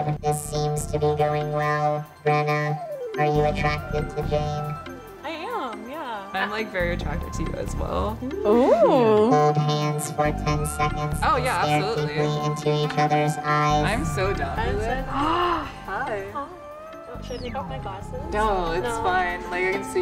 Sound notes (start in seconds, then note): 15.2 gasping